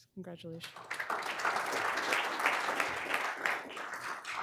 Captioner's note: all applauding